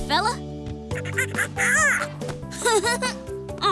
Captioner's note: monkey noises